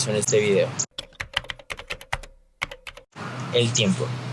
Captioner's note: typing